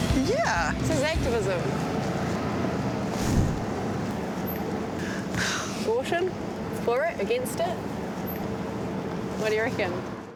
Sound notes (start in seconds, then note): 5.0 sighs